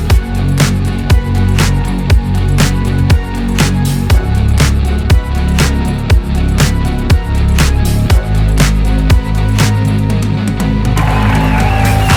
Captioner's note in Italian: Applauso